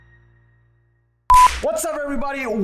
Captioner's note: beep